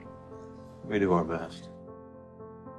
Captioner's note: voiceover